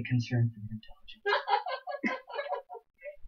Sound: laughs

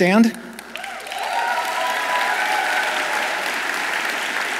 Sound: audience applauds

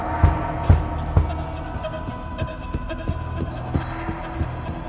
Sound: heavy thumps

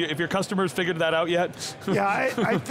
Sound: laughter

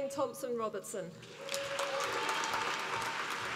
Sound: applause

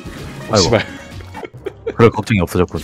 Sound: laughs

